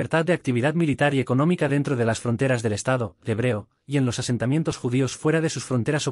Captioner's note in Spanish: hebreo